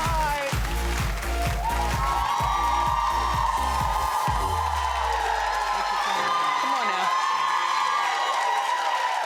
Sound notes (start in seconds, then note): 0.0 upbeat music; 1.4 audience cheering